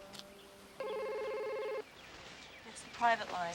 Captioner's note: phone ringing